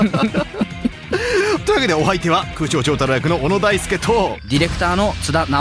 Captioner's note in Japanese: 笑い